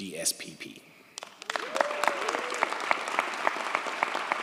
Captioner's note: audience applauds